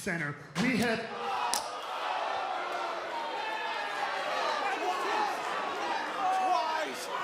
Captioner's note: slapping